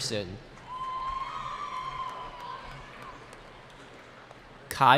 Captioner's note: cheering